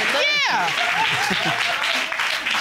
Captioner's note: audience cheering